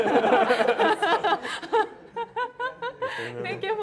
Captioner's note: laughter